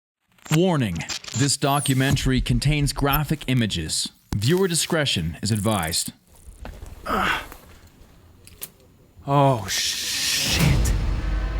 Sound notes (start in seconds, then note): 7.0 grunts